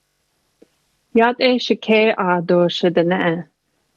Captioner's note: speaks navajo